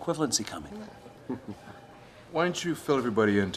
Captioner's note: chuckling